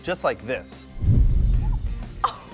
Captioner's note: fire roaring